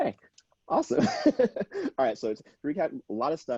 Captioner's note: laughing